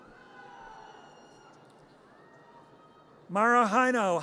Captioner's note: audience cheers